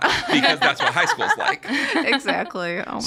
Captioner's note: all laughing